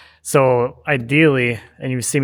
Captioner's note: none